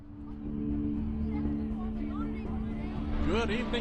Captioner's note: people chattering